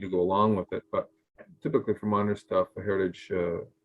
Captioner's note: voice muffling